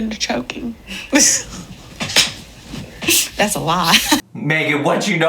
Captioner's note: laughing